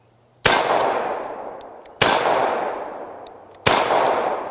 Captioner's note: gun fires